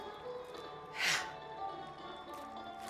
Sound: loud sighing

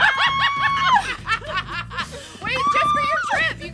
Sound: women belly laughing

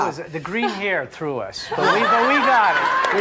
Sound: audience laughs

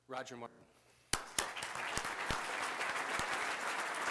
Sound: applause

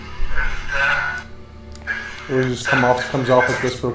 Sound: radio noise reverberating

